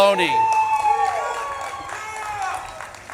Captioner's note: audience claps and cheers